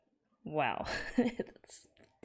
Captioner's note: laughs